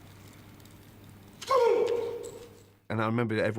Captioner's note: grunts